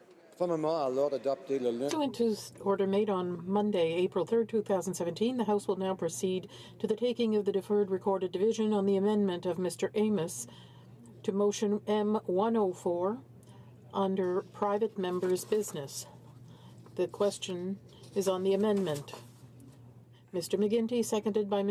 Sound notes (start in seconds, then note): 6.2 speaking French